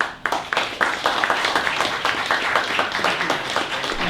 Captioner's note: applause